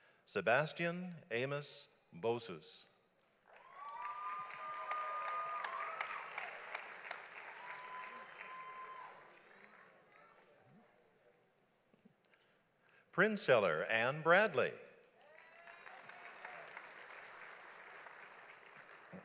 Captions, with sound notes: Sebastien Amos Bossous. (audience applauds) Prenceller Ann Bradley. (audience applauds)